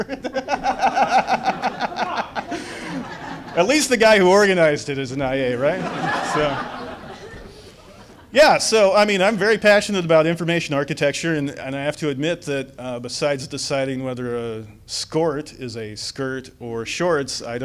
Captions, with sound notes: Stewart, hahahaha. At least the guy who organized it is an IA, right? (audience laughs) Yeah, so I'm very passionate about information architecture and I have to admit that besides deciding whether a skort is a skirt or a shorts,